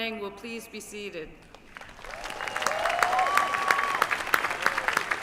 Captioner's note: applause